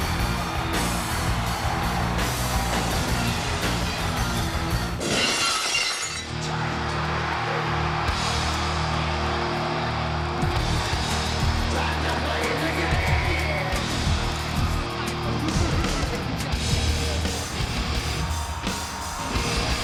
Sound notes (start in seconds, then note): 1.0 audience cheers; 5.0 glass shatters; 6.5 upbeat music; 7.8 audience cheers